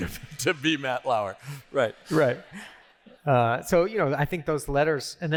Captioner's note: laughter